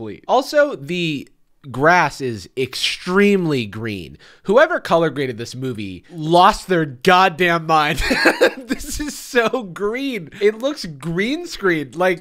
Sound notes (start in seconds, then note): 7.9 laughs